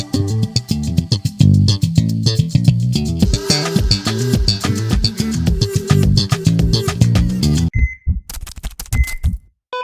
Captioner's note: upbeat music; keyboard keys clicking; beeping